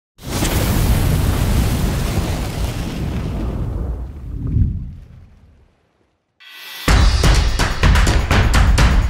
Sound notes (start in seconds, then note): 0.3 fire howlling; 6.5 upbeat music